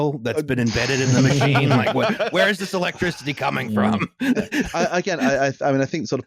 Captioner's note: erupts in laughter